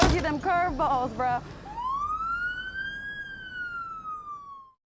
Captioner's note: sirens